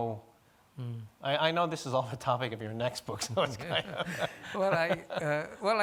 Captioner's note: laughing